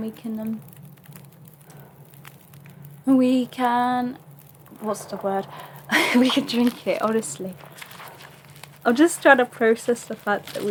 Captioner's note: laughs